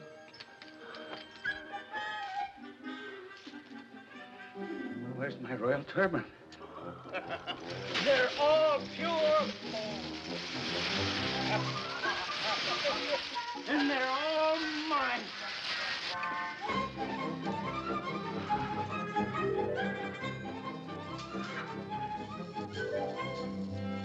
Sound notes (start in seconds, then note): 0.2 whimsical music; 6.8 cackling; 11.4 coins clinking; 15.0 coins clinking; 16.1 whimsical music